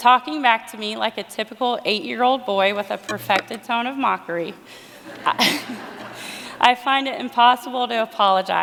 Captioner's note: laughter